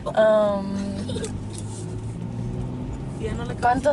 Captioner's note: car engine roaring; speaks in foreign language